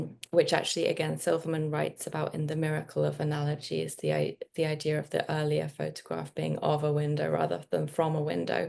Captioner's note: none